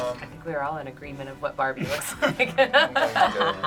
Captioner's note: laughs